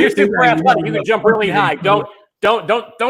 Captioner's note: murmurs